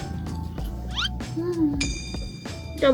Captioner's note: mmm